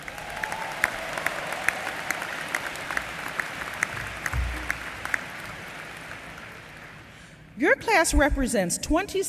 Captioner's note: applause